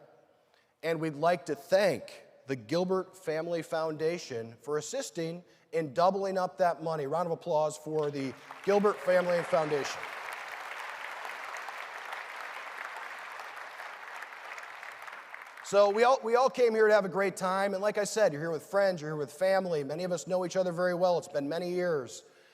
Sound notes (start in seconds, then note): 13.1 applause